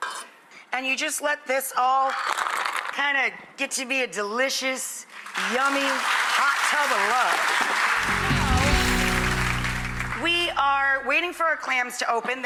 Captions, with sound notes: And you just let this all kind of, get to be a delicious, yummy, hot tub of love. (audience applauds) So, we are waiting for our clams to open.